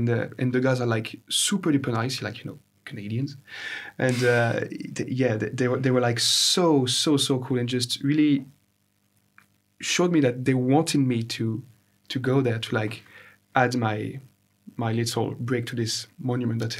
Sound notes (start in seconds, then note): 4.0 both chuckle